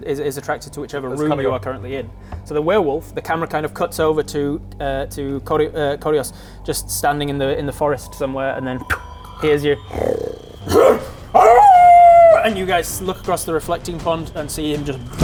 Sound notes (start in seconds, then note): 8.8 growl; 10.5 hrmph; 11.3 awooooooooooooooooo